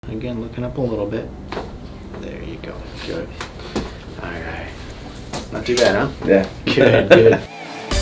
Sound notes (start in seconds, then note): 1.5 neck cracks